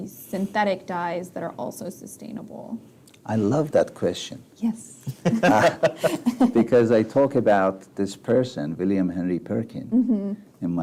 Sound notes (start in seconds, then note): 5.1 laughs